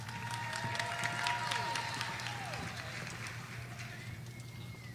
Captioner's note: audience applauding